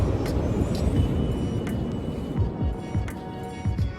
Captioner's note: waves breaking